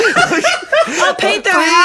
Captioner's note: everyone laughs